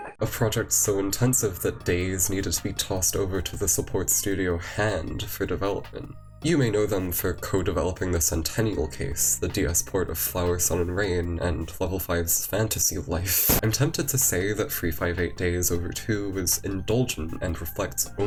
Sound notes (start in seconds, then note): 13.4 explosion